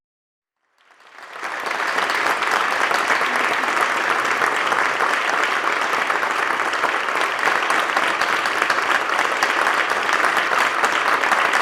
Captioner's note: applause